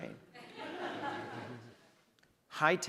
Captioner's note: audience laughs